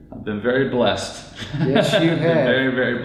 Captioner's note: laughs